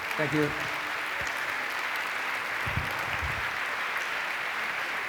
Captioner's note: applause